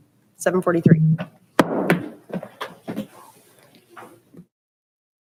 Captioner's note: gavel raps